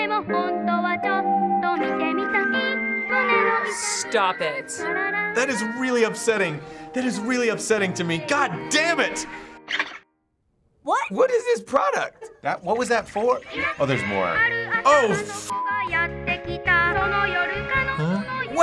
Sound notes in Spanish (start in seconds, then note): 15.0 pitido